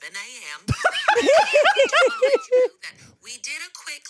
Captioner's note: everyone laughs